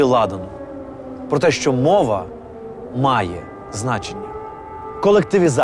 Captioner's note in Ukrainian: звук повітряної тривоги